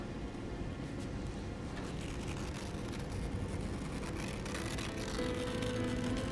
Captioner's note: paper Tearing